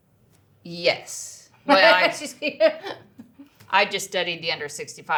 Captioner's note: laughs